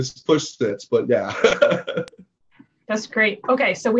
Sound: laughs

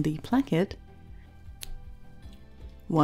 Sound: sharp snip

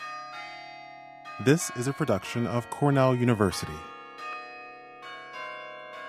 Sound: chimes

